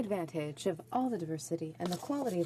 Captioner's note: speaking French